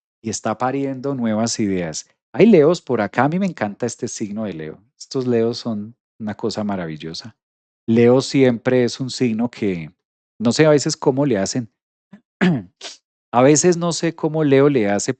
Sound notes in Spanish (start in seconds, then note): 12.4 carraspeo